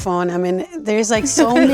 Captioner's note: group laughing